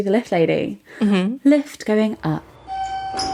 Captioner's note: elevator sound effect